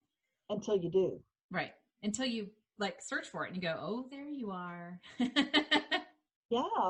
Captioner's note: laughing